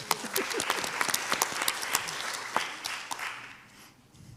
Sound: audience applauds

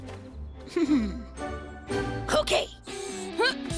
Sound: laughs; energetic music

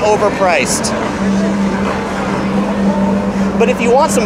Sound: people chatting

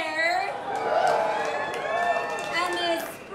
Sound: cheering

